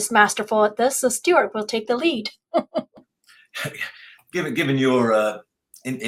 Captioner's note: laughs